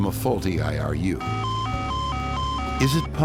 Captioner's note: alarm beeping